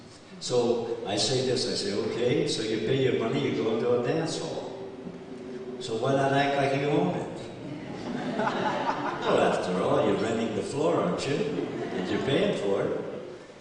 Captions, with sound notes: So I say this. I say okay, so you pay your money, you go into a dance hall. So why not act like you own it? [Laughter] Well after all you're renting the floor aren't you? And you're paying for it.